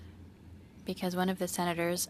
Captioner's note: speaking French